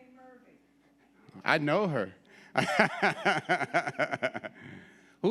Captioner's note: laughs